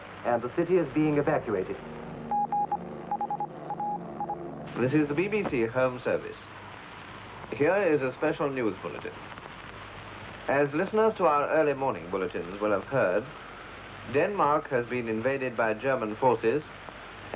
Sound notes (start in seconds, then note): 3.0 morse code beeps